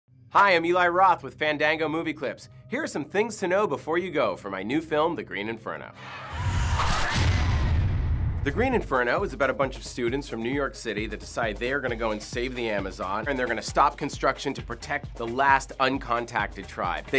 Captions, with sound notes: Hi, I'm Eli Roth with Fandango MOVIECLIPS. Here's some things to know before you go for my new film The Green Inferno. (SCREAMING) The Green Inferno is about a bunch of students from New York city that decide they're going to go and save the Amazon and they're going to stop construction to protect the last uncontacted tribe.